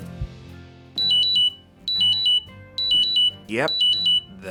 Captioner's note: alarm beeping